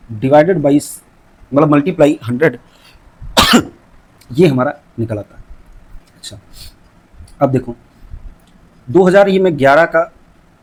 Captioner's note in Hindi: खांसने की आवाज़